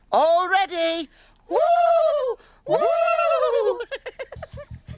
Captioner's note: Hoobs hooting; upbeat music